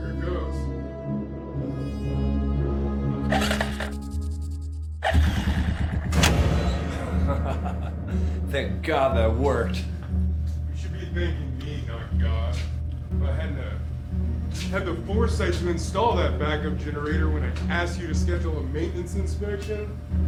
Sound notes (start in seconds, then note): 3.3 electricity sizzles; 5.0 generator cranking; 6.9 laughing